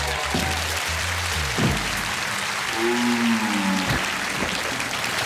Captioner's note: cheers and applause